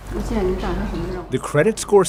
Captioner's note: speaking foreign language